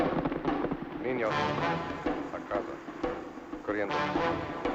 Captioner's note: speaking in Spanish